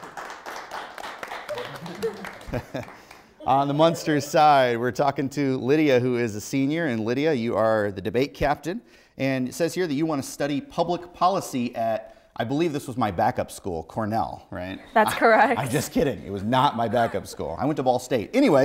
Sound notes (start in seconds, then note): 1.5 laughs